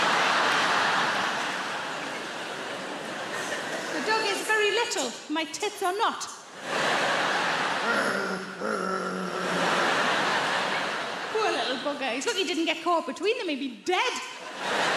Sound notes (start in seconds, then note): 0.0 audience laughing; 7.9 growling